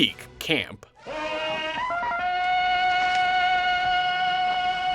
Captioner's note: Tarzan yell